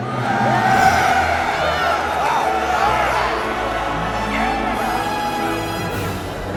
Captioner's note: loud cheering